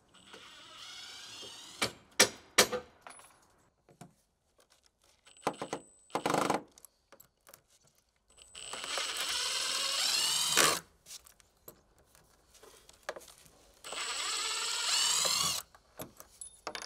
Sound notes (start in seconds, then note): 0.1 drill whirring; 5.5 drill grating; 8.4 drill whirring; 13.8 drill whirring